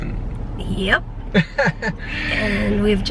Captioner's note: chuckling